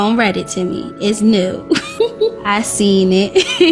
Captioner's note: laughing